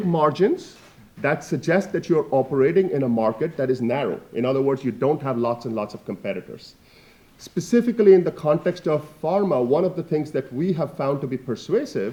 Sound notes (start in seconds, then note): none